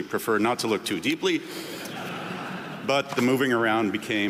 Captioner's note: audience laughing